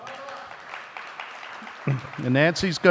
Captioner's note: audience applauding